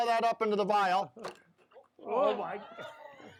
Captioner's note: audience exclaims; laughing